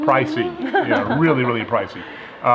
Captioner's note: laughing